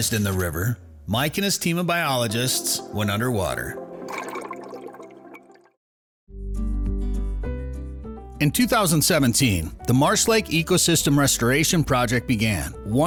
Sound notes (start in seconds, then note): 4.0 water gurgling